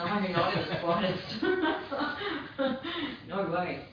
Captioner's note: laughter